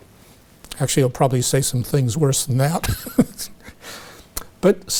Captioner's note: chuckles